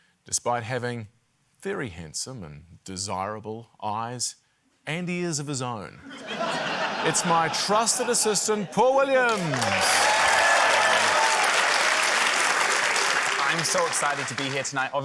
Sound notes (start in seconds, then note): 6.0 laughter; 10.8 cheering, applause